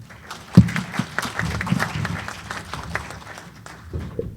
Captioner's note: applause